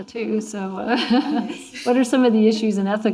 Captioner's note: laughing